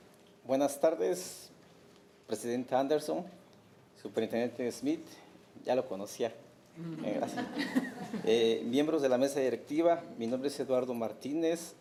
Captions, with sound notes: - Buenas tardes President Anderson, Superintendent Smith (speaking Spanish)